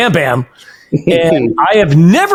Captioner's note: chuckles